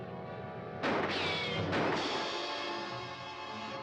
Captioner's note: gun firing